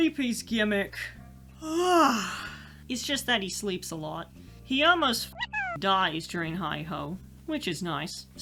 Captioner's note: yawn